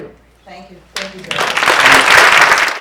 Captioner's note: audience applause